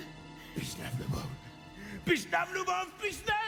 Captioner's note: Ukrainian